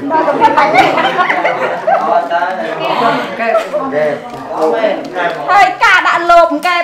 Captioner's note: chattering